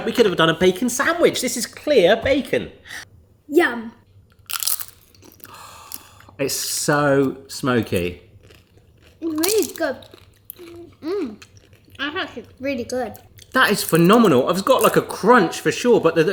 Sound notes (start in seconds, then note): 4.3 bacon crackling; 5.4 gasps; 8.4 bacon crunching